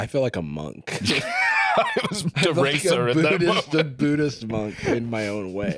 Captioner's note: laughs